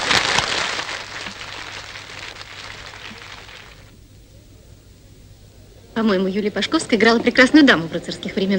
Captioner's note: applause